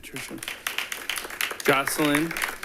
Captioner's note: audience applauding